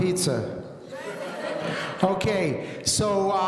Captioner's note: audience laughing